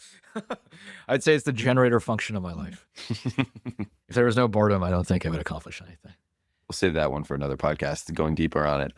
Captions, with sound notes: I'd say it's the generator function of my life. [laughs] If there was no boredom, I don't think I would accomplish anything. We'll save that one for another podcast, going deeper on it.